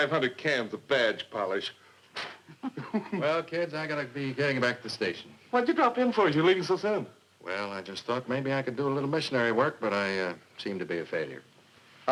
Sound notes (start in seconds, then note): 1.8 blowing